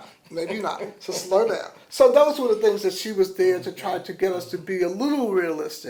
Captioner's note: laughter